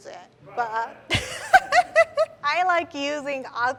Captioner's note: chuckles